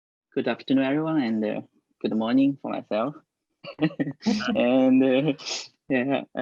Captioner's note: laughing